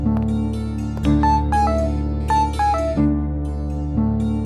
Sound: phone rings

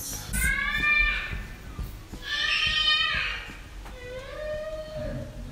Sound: baby shrieks in Background

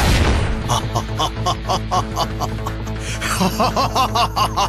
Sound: laughs

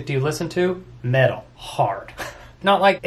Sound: laughs

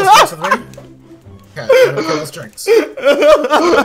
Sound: laughing

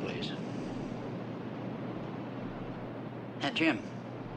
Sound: surf crashes

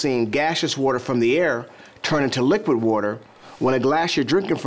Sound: none

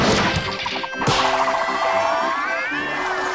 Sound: spinning

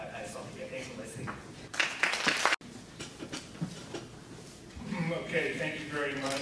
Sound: audience clapping

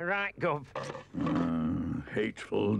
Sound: stick clangs

